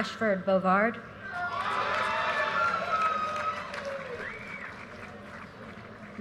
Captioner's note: audience cheers and applause